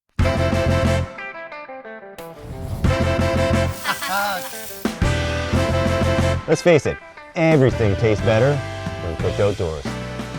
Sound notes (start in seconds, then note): 3.7 laughter with track continuing under